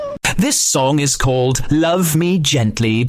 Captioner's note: cat meow